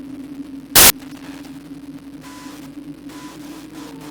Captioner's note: glitch sound